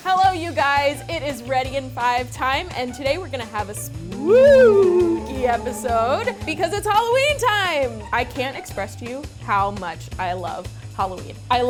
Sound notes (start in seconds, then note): 3.9 ghoul howling